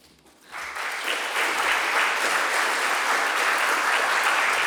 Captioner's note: audience applauding